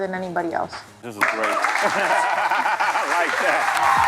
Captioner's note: laughs